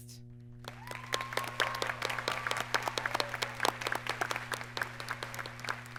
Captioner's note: audience cheers and applauds